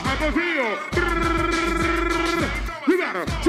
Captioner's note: trills